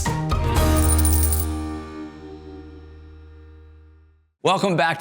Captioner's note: coins clacking